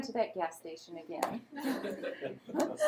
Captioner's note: laughter